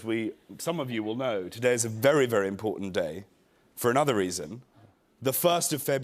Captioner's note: none